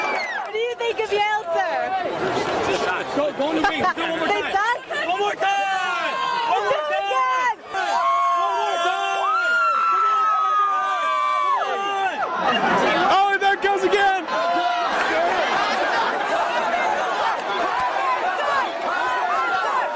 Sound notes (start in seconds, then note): 3.7 laughs; 8.3 cheering